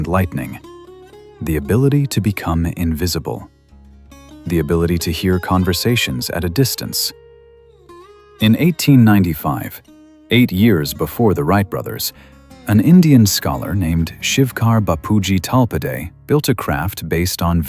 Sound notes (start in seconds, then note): 8.5 breath